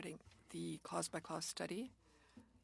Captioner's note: speaking French